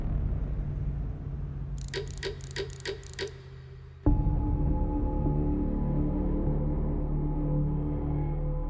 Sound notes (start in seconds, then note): 1.8 clock gears clicking; 3.4 ominous music playing